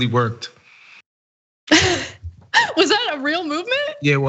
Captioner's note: laugh